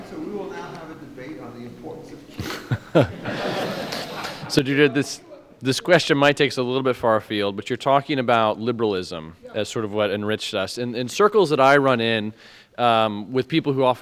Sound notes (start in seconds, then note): 2.3 laughing drowns out speaker